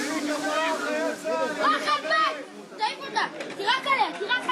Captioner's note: Hebrew spoken audio